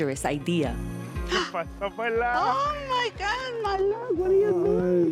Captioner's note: speaking Spanish